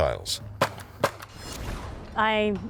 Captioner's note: gun shooting